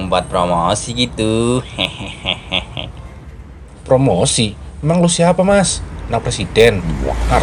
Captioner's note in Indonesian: tertawa